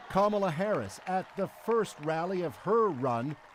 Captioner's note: cheers and Applause